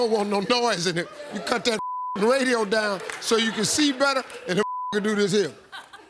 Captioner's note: beep; beep